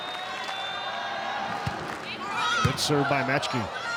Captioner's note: ball thumping